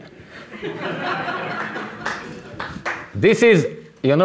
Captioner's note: audience laughing